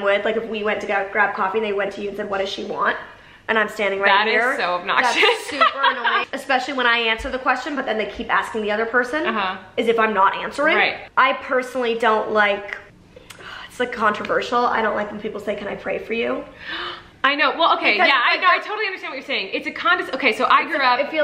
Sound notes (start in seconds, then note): 5.0 laughs; 16.6 gasps